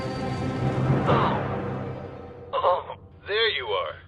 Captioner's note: groans